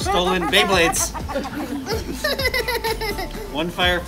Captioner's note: laughing